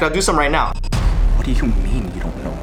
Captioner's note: dramatic Voice